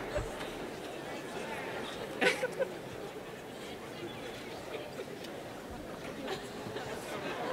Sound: laughter

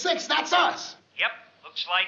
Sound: on walkie-talkie

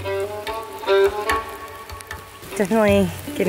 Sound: rain falling

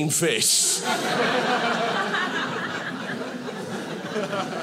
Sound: audience laughing

